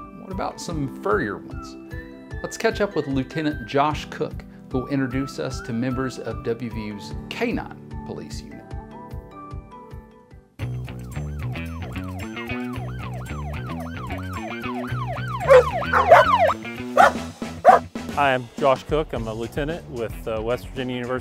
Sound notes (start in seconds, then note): 11.1 siren blaring; 11.1 upbeat music; 15.4 dogs barking